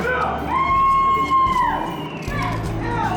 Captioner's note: applause